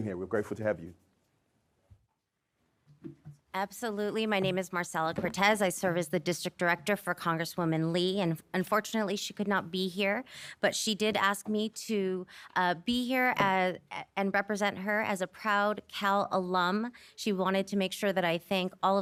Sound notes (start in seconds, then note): none